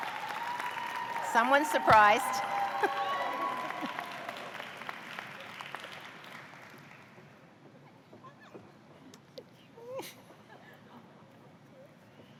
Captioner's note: cheers